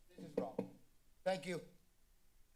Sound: thumping sound

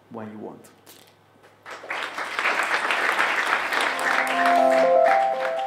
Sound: applause

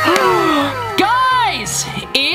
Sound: gasps

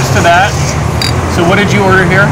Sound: glasses clinking

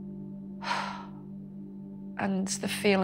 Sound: sigh

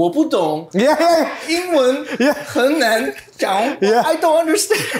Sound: laughter

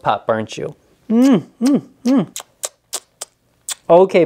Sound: smooches loudly

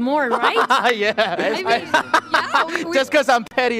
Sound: laughs

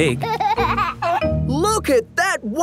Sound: giggling

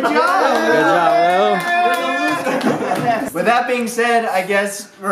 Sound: cheers and laughter

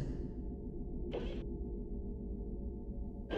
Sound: none

